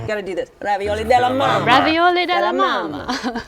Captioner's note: Italian accent; chuckles